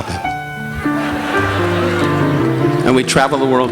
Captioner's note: audience laughing